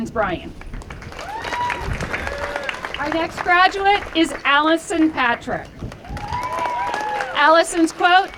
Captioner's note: applause